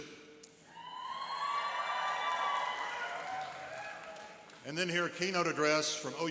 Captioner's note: cheering and applauding